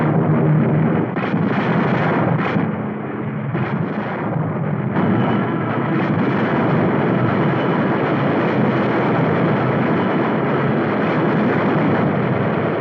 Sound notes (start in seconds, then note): 1.0 guns firing